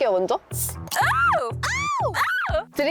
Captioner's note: beer opening sound